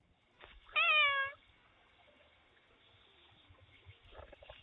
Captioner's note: cat meows